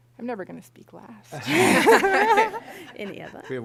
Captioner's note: laughter